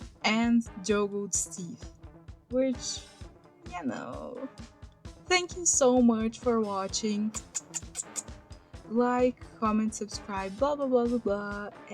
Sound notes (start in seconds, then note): 7.3 kiss noises